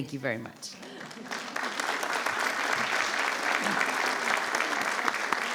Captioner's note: attendees applauding